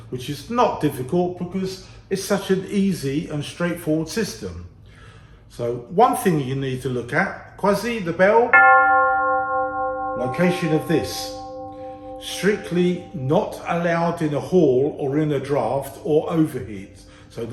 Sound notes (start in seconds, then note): 8.5 bell chimes